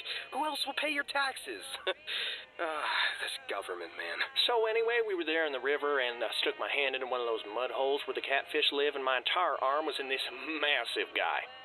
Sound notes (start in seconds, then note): 2.4 sigh